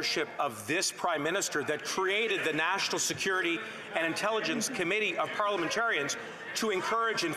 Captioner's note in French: voix de l'interprète